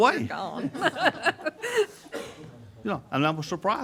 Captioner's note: group laughing